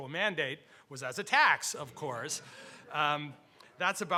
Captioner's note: audience chuckling